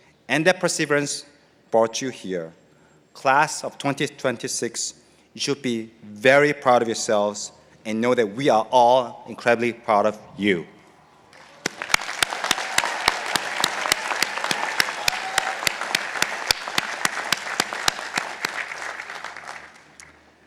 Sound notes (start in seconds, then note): 11.2 participants applauding